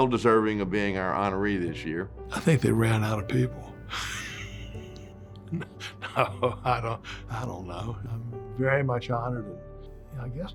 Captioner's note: laughs